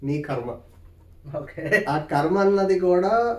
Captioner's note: laugh